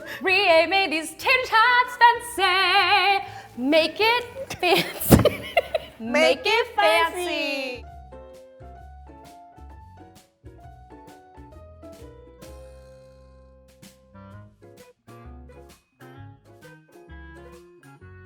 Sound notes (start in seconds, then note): 4.4 laughs; 8.2 light swing music